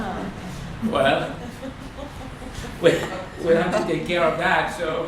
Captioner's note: laughter